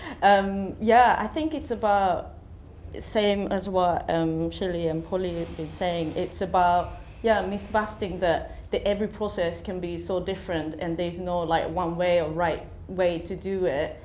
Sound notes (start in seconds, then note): none